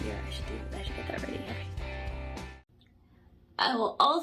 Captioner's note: gasp